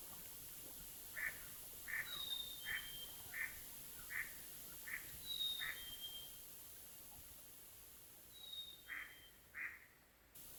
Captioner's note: sounds of Nature, Chickadees and duck quacking